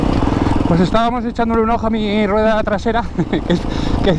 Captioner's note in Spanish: risas